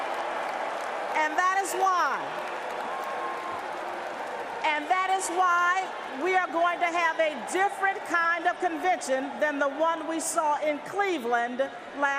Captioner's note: applause